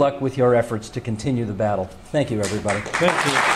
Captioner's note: speaking in French; in English